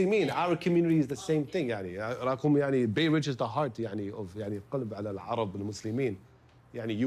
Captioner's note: non-english speech